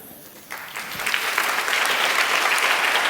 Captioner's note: applause